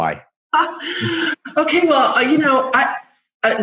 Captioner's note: laughs